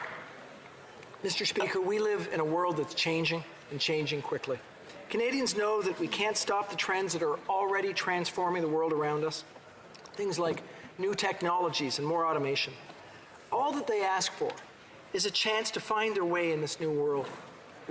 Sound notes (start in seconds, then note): 1.5 applause